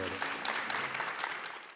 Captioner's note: applause